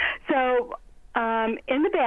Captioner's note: laughing